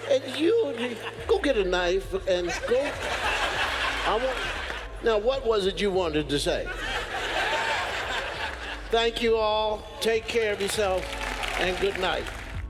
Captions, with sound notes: and you go get a knife and go. (audience laughs) Now what was it you wanted to say? (audience laughs) Thank you all, take care of yourself, and good night.